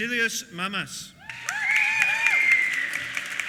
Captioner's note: applause; cheers and whistles